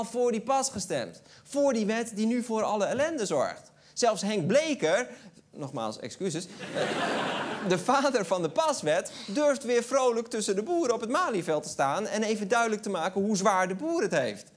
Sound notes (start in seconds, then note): 6.5 laughter